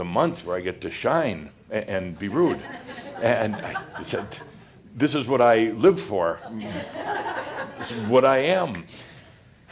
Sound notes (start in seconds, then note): 2.3 more chuckles